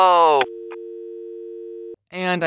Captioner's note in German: Ton vom Auflegen